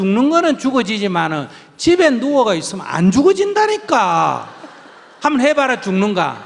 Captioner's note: audience Laughter; laughter